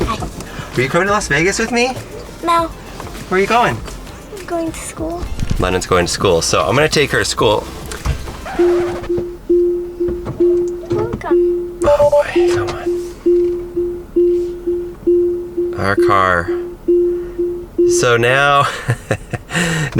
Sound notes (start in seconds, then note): 8.4 beeping; 10.7 car voice; 13.3 beeping; 18.5 laughs